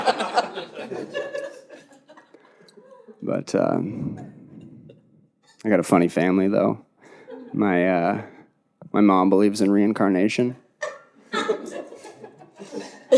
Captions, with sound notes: (audience laughing) But I got a funny family though. My mom believes in reincarnation.